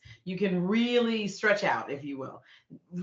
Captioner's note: none